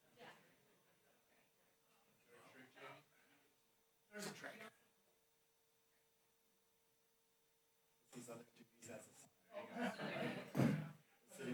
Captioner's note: background chatter